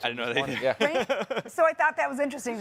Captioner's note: chuckles